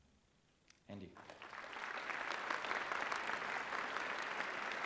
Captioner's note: applause